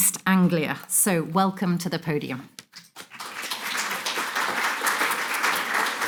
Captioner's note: audience applauding